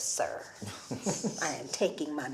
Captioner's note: Eric chuckles